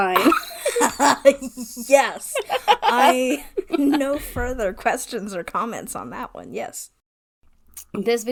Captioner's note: laughs